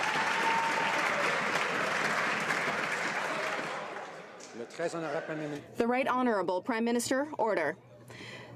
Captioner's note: some Applause